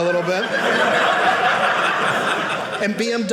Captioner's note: audience laughing